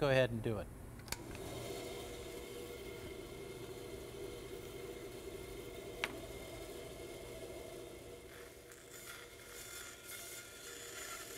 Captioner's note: saw Blade